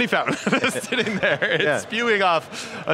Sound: laughing

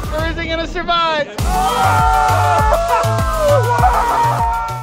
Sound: group cheering

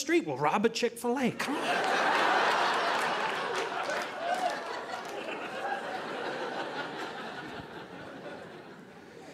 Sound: audience laughing

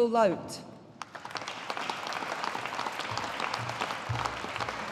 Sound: audience applauding

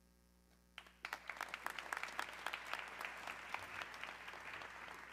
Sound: audience clapping

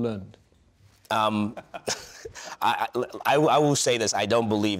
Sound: panel members laugh

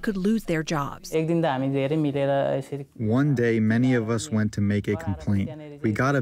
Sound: through translator

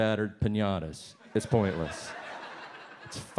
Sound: audience laughs

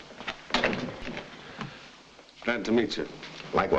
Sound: door thuds shut

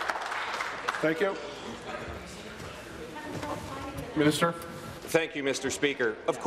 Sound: applause

